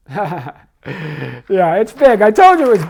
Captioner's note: laughs